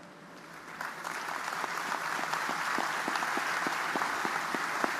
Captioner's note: audience applauding